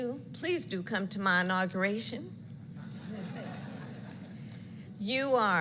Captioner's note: laughter